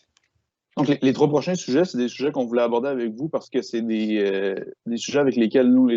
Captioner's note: speaking in foreign language